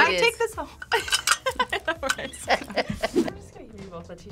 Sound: React laughs

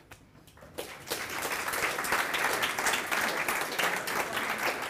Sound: applause

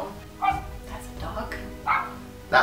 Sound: bark; bark

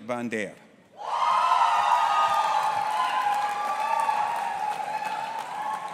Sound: audience applauding and cheering

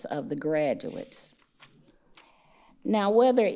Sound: page rustles

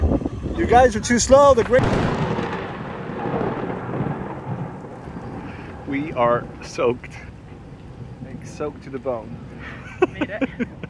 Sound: thunder; laughs

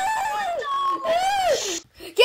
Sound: screams

